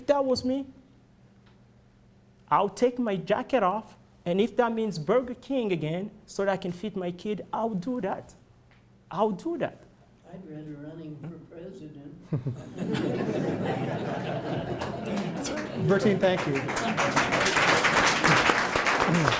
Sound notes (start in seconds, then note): 12.2 laughter; 17.1 applause